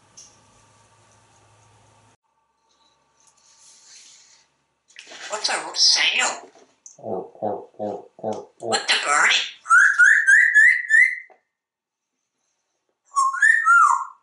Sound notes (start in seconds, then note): 9.6 bird tweet sound; 13.1 whistle